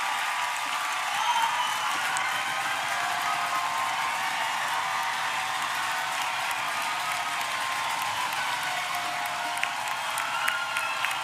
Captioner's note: applause